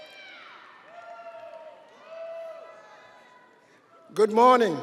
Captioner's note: audience cheering